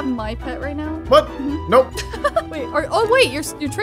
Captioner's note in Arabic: يضحك